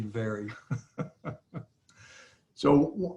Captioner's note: laughs